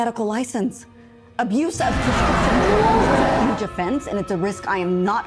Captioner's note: Leo growls